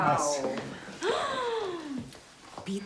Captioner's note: gasps; speaking in foreign language